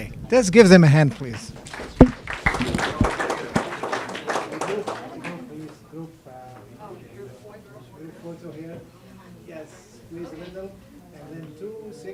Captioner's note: applause and background conversation